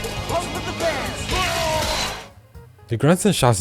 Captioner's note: wrestler grunting and shouting